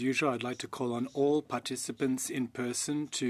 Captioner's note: speaking French